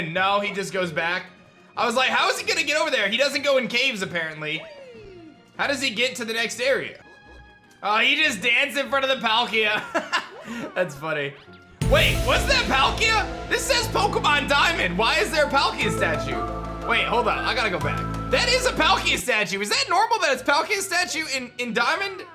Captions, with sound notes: No, he just goes back. I was like, how is he gonna get over there? He doesn't go in caves apparently. How does he get to the next area? Oh, he just danced in front of the Palkia. (laughs) That's funny. Wait. Was that Palkia? This says Pokemon Diamond. Why is there a Palkia statue? Wait. Hold on. I gotta go back. That is a Palkia statue. Was that normal that it's Palkia statue in Diamond?